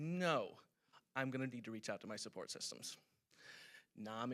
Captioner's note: none